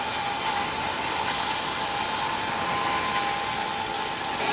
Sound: whirring continues

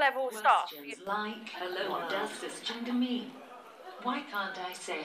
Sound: voiceover

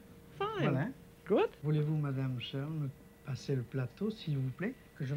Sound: speaking French

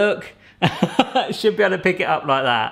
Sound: laughing

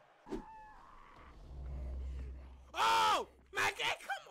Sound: screeching

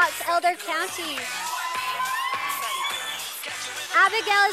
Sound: sound of cheers from Audience

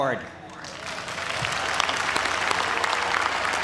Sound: cheers and applause

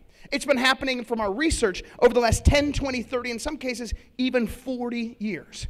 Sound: none

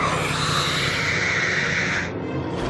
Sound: roaring

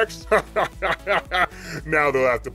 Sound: laughs

